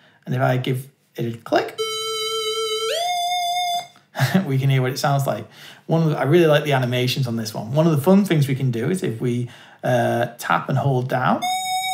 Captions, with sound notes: And if I give it a click. *Square wave noise* We can hear what it sounds like. I really like the animations on this one. One of the fun things we can do is if we tap and hold down.